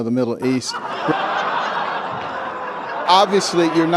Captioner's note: laughter